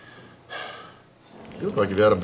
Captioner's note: frustrated groans